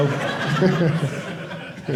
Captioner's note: audience laughing